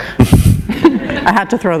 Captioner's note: chuckle